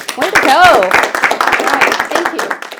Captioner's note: applause